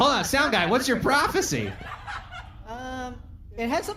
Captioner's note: audience laughing